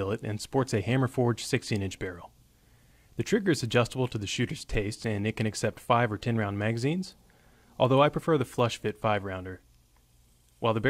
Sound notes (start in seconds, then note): none